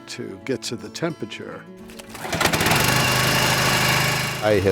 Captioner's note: <i>engine buzzing</i>